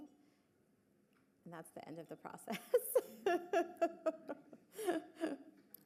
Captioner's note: laughs